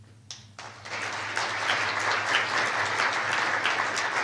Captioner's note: applause